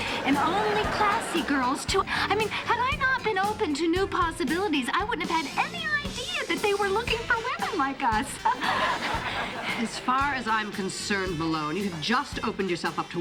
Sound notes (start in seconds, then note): 7.2 laughs